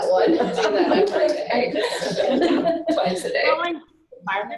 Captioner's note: laughing